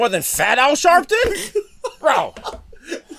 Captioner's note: laughter